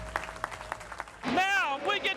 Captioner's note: applause